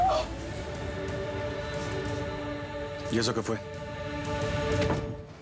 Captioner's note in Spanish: grito